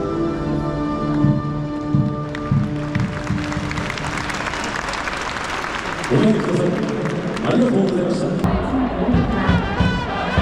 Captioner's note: applause; music and cheering